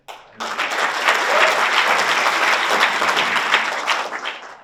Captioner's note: audience applauds